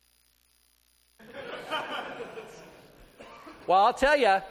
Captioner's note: laughter